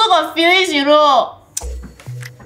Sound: tsk

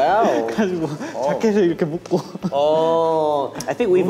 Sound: speaking in Korean

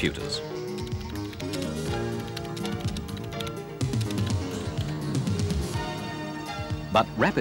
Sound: typing on keyboard

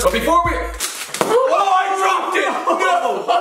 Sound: thumping on floor; laughing

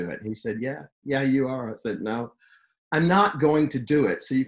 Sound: none

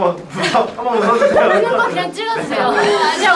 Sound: cry

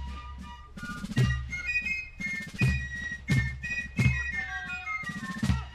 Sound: soldier shouting commands

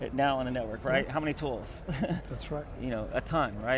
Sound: laughs

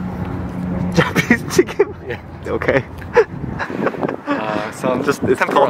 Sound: laughing

